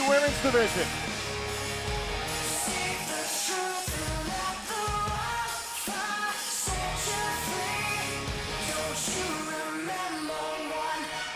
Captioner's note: crowd cheering